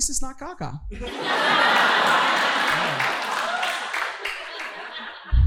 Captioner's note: audience laughing